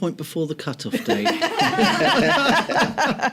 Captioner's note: laughter